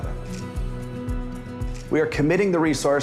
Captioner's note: camera clicks